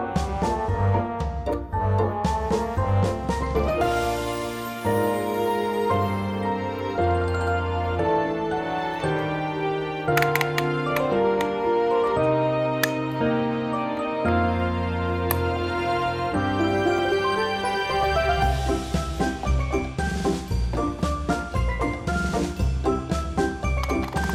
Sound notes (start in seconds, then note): 10.2 creaking